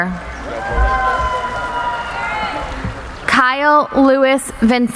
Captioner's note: cheering